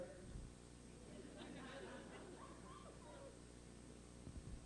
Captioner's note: laughter